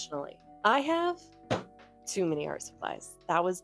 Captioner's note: slaps table